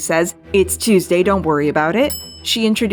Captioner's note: bell Dings